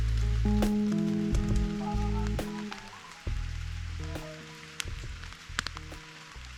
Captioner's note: rain